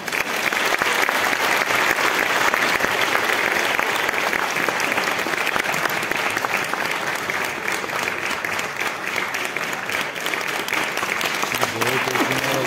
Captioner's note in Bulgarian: аплодисменти